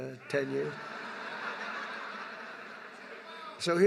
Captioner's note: laughter